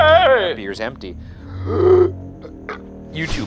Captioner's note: burps